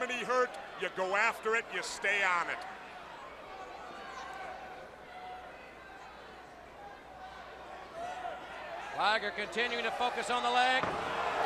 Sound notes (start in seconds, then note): 3.5 crowd chatter